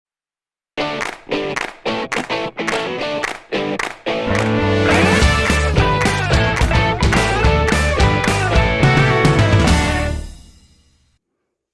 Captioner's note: claps